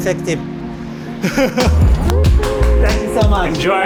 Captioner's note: laughs